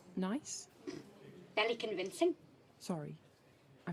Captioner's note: she snorts